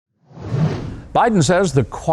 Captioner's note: air whooshes